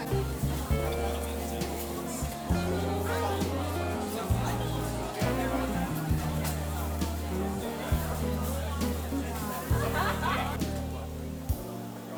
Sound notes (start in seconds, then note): 8.3 haha